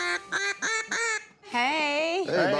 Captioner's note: duck call